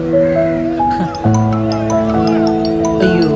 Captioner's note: phone ringing